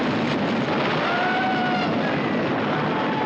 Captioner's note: screaming